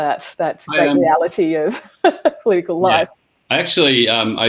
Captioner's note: laughs